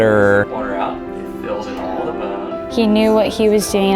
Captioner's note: doctor talking